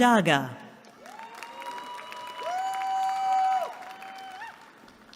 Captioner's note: cheering